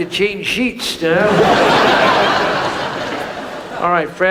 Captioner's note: audience laughs